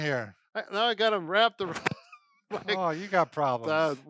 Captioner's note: laughing